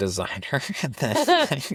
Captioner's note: laughing